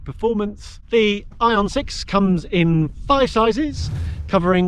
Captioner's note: air whooshes